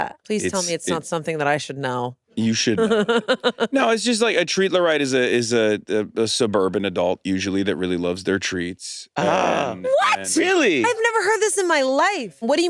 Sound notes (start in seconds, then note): 2.7 laughs